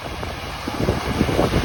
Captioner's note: ocean waves